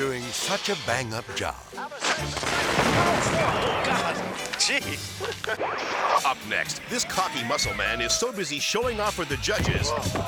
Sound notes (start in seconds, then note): 0.1 fire hissing; 2.2 fireworks exploding; 5.2 screen static